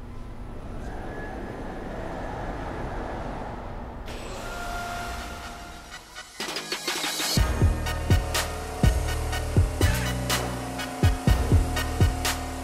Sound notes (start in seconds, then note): 1.1 machine sound